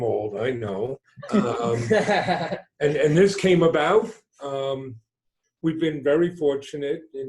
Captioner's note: laughter